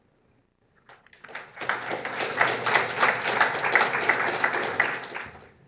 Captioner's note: audience applauding